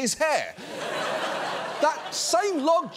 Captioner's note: audience laughs